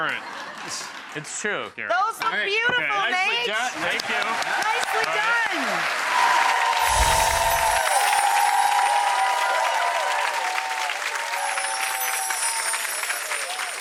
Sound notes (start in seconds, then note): 0.0 audience claps; 5.8 audience applause; 6.7 magical sound